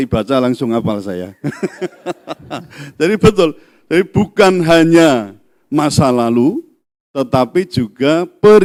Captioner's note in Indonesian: tertawa